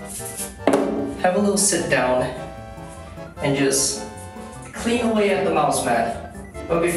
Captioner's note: plastic stool clops